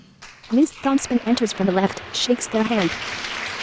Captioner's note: applause